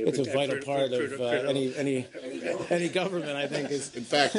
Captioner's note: laughter